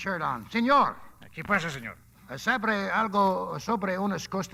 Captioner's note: speaking Spanish